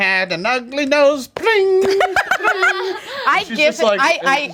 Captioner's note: imitates strings being plucked